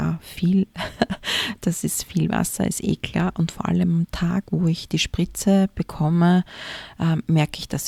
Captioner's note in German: gelächter